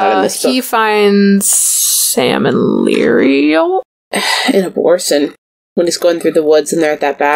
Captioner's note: sighs